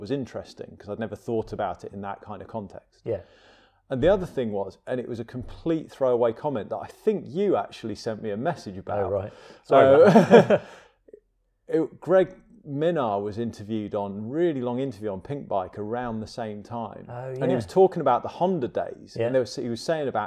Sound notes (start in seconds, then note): 9.8 chuckles